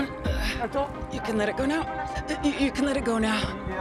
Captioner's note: exhales